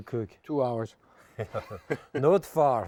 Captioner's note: both chuckling